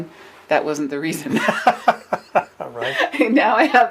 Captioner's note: laughs